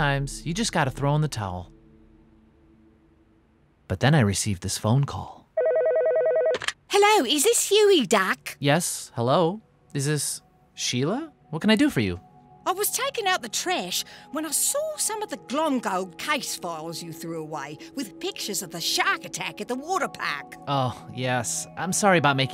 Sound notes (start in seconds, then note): 5.6 phone ringing; 11.2 hopeful music playing